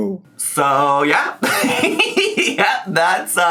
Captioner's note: laughing